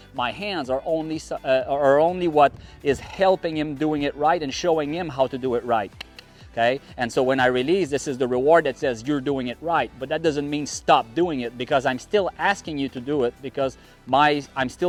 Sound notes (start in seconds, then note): 5.9 clicks tongue